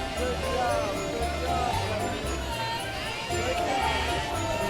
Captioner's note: cheers and applause